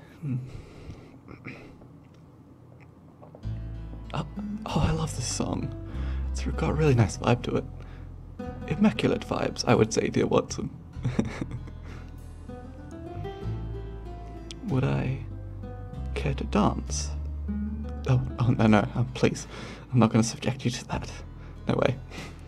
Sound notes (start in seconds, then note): 1.2 sighs, clears throat; 8.4 British accent; 11.0 laughs